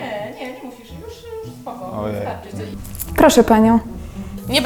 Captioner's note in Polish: w tle kobiecy głos